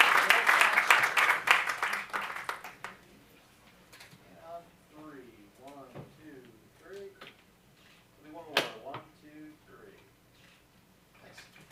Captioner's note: applause